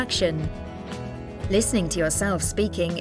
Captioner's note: in Spanish